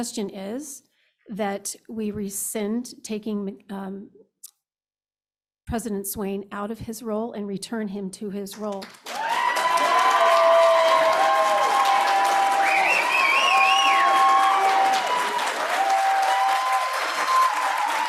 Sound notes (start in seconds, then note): 8.9 cheers, applause